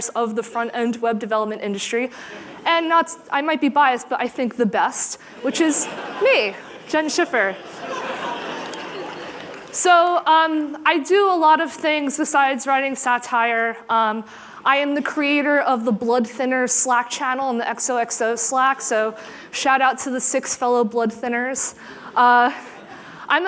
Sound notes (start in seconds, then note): 7.4 laughter